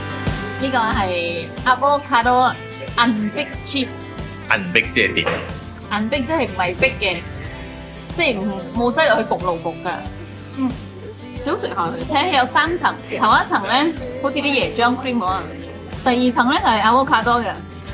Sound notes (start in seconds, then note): 6.4 speaking nonsense